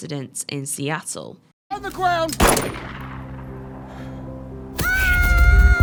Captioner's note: gunshot